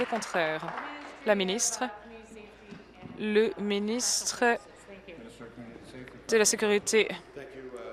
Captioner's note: applause